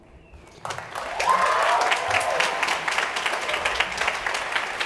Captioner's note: crowd cheering